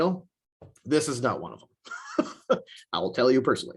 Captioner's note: chuckles